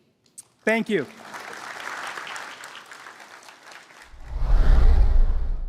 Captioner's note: applause